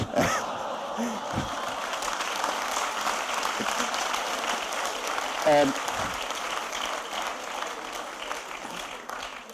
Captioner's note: laughter and applause